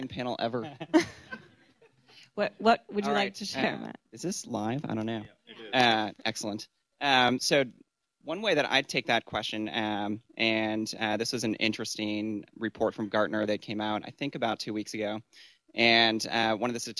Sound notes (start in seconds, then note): 0.6 laughter; 0.8 laughs